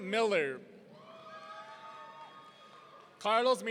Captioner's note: audience cheering